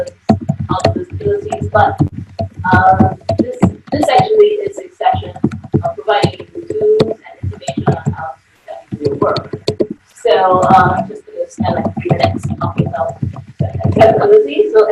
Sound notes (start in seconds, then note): 5.0 audio warps